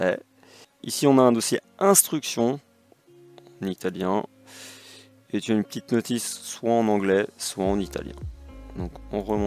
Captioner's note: in Italian